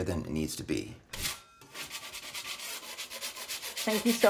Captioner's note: scraper scraping